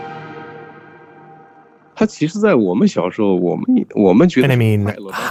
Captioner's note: speaking Mandarin Chinese